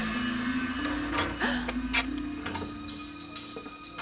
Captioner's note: gasping; tense music